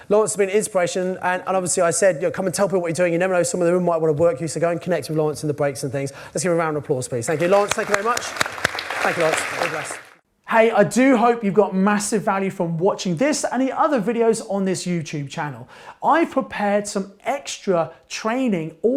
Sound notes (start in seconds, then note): 7.3 audience applause